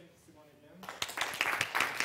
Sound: applause

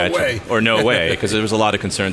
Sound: laughing

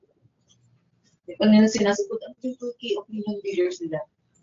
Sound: video echoes

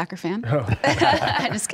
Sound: laughs

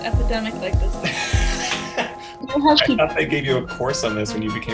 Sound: laughs

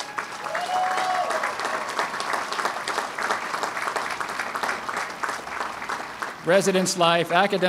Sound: applause

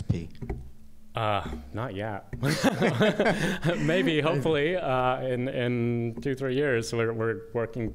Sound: laughter

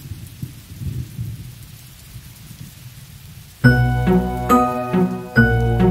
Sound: rain falling and thunder rolling

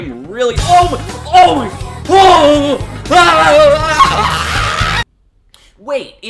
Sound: news Anchor Screaming in Pain

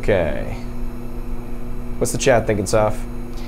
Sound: machine whirring

